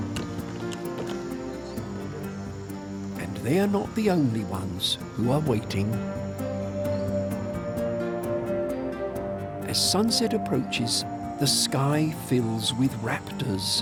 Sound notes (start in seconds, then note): none